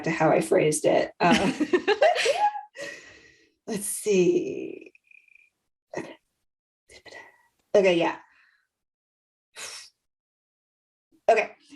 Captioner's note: laughter